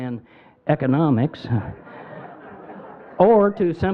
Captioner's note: crowd laughing